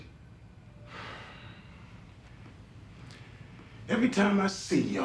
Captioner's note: sighs